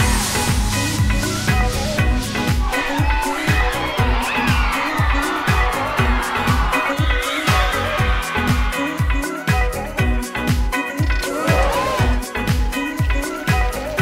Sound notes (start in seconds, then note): 0.2 upbeat music; 4.6 crowd cheers; 9.5 upbeat music